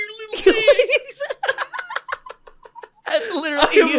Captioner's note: laughter